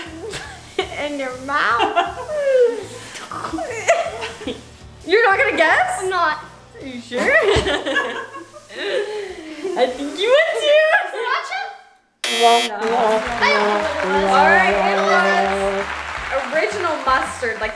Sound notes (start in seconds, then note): 2.7 choking; 8.5 laughing; 12.2 incorrect buzzer rings; 12.3 sad music plays